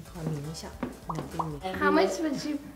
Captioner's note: speaking in foreign language